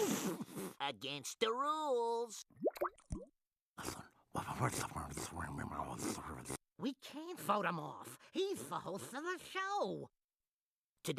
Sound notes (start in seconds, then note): 3.8 whispering